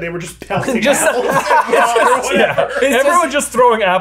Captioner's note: both laughing